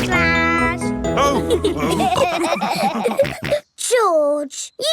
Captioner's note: all laughing